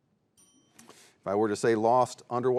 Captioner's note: bell dings